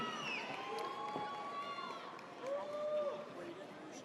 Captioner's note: audience cheers